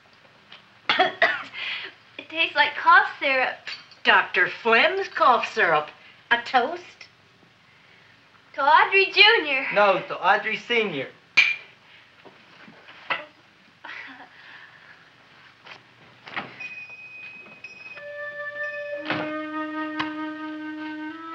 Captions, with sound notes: - (coughs) It tastes like cough syrup. - Dr. Phlegm's cough syrup. A toast? - To Audrey Jr.! - No, to Audrey Sr.! (glasses clinking) - Oh (chuckles). (shop bell chiming) (mysterious music)